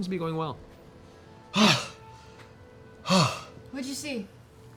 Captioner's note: gasps